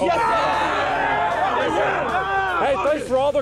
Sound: cheering

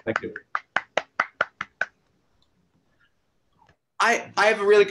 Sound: applause

